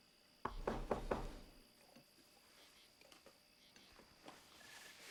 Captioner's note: knocking on door